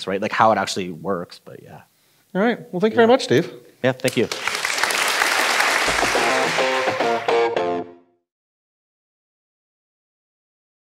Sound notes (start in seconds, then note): 4.0 audience clapping; 6.0 driving rock music